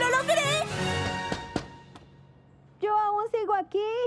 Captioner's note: knocking